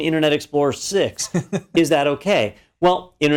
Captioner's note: laugh